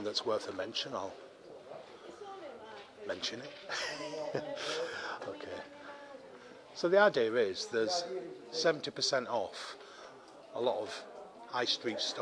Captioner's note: laughs